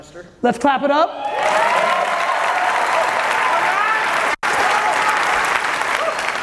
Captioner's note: audience applauding loudly